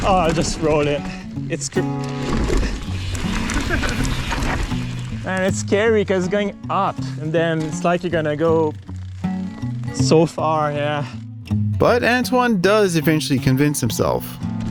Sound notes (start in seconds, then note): 3.6 laughter